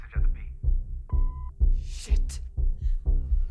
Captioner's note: phone beeps; tense music